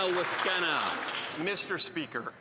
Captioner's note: applause